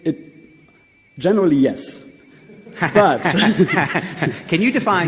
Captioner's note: laughs